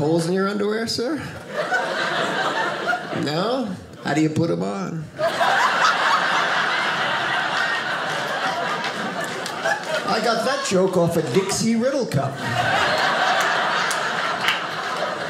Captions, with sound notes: in your underwear, sir? No? How do you put them on? (audience laughing) I got that joke off a Dixie riddle cup. (audience laughing)